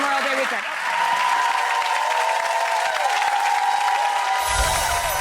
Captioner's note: audience cheering